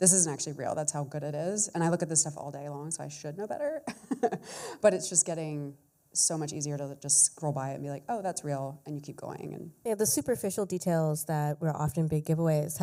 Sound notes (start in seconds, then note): 3.8 chuckles